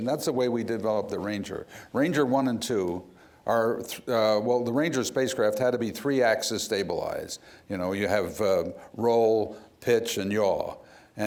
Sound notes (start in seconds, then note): none